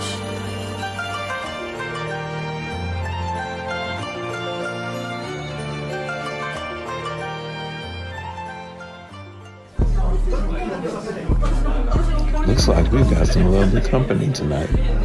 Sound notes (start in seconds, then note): 9.7 patrons chattering; 9.7 thumping music